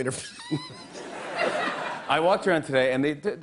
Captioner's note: laughs